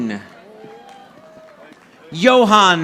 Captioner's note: audience applauding